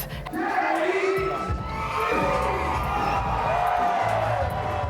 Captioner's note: audience cheering